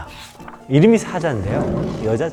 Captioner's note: roarrr!